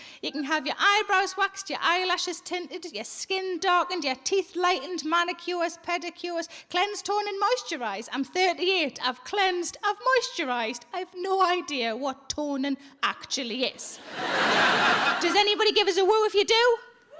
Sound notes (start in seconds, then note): 14.0 audience laughing